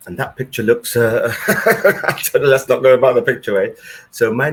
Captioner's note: laughs